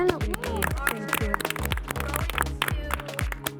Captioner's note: panelists clapping